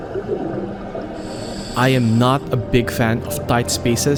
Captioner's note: air hisses